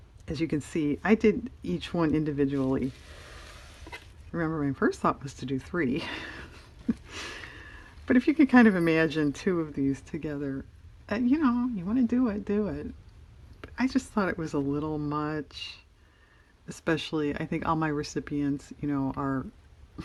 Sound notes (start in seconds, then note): 6.1 laughs